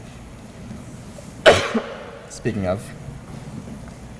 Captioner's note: cough